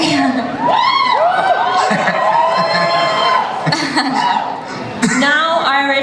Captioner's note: audience cheers